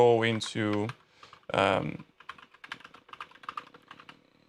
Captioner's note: keyboard clicks